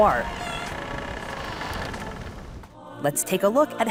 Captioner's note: door creaks